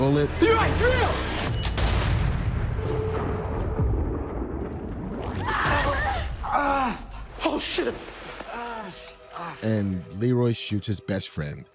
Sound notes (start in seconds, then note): 1.5 gun fires, echoes; 5.4 children scream; 5.5 groans